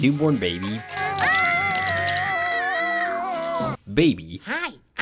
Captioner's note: Earl and Baby yelling